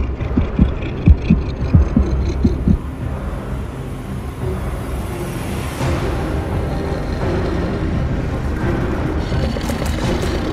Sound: Scorpius Rex growls

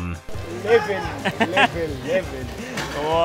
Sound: speaking in foreign language

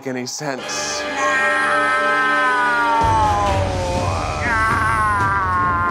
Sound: intense orchestra music; screaming

